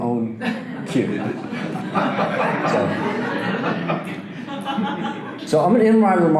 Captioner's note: audience laughter